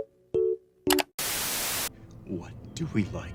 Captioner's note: static